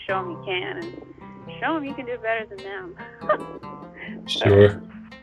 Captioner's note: laughs